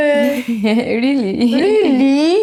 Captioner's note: laughs